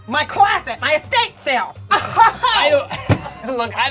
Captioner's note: laughing